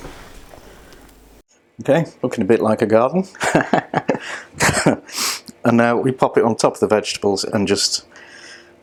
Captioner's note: laughs